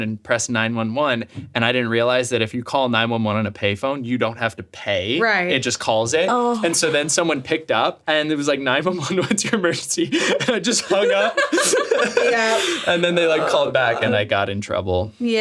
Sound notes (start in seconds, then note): 10.0 laughs